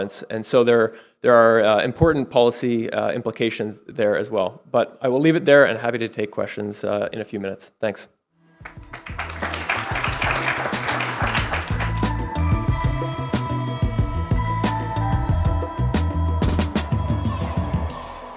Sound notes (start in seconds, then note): 8.6 audience applauding; 12.1 upbeat music